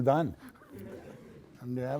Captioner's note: laughing